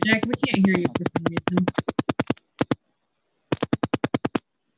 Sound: clicking noise

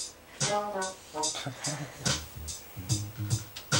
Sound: chuckles

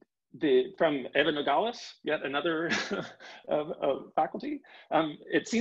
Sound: chuckling

